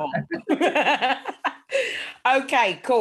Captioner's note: chuckling